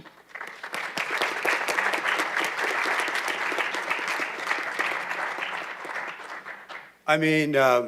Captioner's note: applause